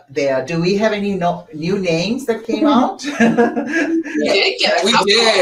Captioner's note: laughs